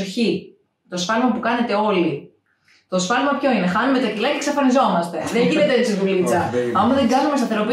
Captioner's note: laughs